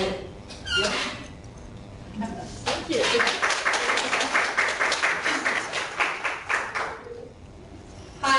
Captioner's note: clapping